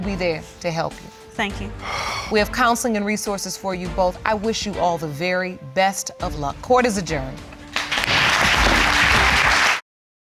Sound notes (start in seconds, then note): 1.8 sighs; 7.7 audience applauding